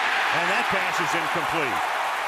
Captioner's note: cheering